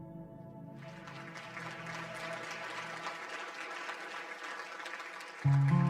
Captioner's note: audience applause